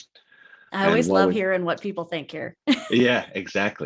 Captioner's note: laughs